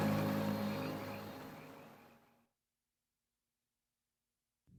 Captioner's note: frogs croaking